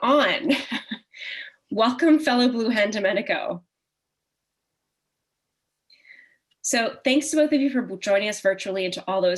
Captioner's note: chuckle